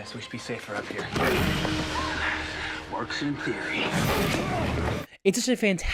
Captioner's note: growls